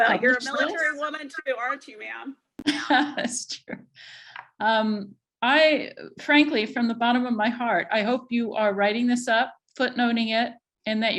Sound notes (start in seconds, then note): 2.6 chuckles